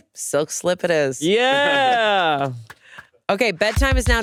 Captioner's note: Hasan laughs